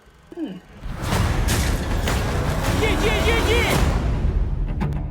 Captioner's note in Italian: urla; suona musica incalzante